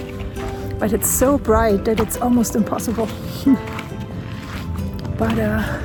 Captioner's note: laughs